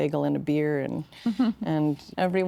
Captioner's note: chuckling